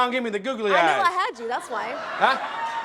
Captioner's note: audience laughing